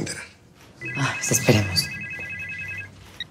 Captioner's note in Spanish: Suena el celular